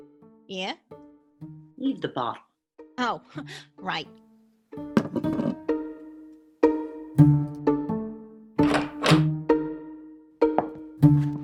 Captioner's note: bottle clunk, door opens